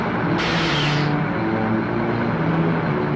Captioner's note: truck engine whirring; breaks squeak; suspenseful music